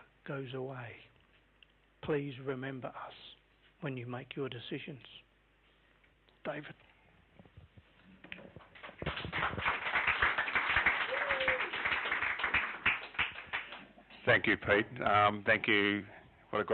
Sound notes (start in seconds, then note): 11.5 clapping